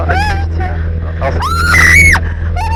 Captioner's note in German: schreit noch lauter